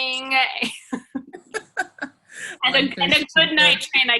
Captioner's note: laughs; laughing